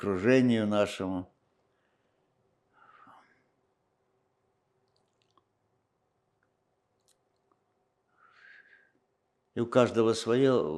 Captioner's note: pause 9 seconds